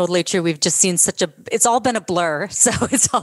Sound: laughter

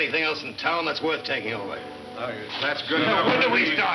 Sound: men chattering

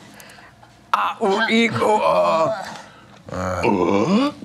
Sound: grunting

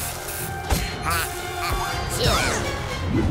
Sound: sneezing; music playing, screaming

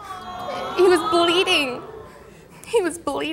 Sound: audience groans sympathetically

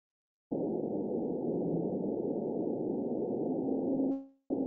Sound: low rumble

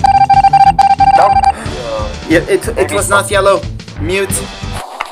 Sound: gasp

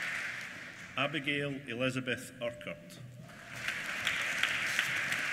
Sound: applause

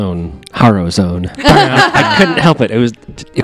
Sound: laughter

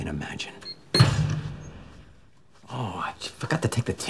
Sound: door slams

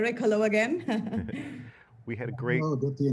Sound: laughing

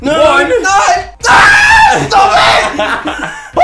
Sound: screams

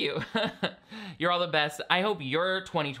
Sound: laughs

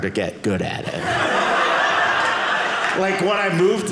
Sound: audience laughing

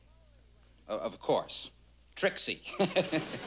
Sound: laughs

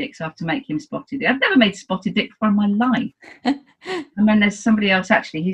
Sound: laughs

